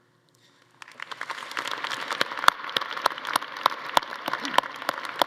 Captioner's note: attendees applauding